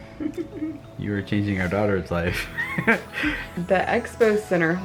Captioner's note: chuckles